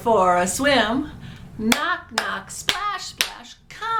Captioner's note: claps